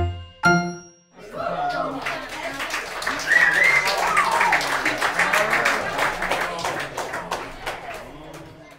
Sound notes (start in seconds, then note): 1.3 audience applauds